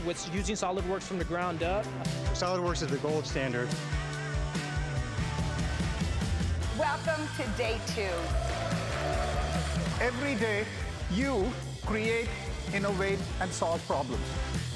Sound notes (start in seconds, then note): 4.0 upbeat music; 7.0 audience cheering and clapping